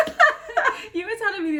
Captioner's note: laughs